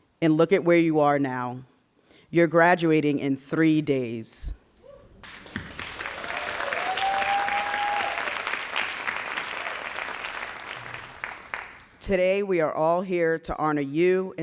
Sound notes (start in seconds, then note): 5.2 all applauding